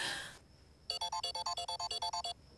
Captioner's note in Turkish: Telefon çalıyor